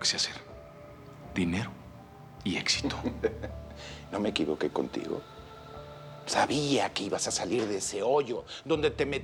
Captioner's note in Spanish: Risas del papá